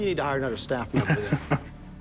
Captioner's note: Corey laughs